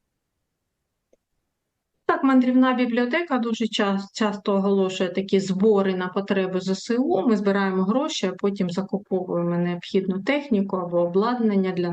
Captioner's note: foreign language